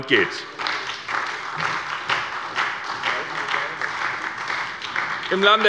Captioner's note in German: Beifall bei der SPD